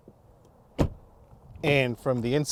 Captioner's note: car door thuds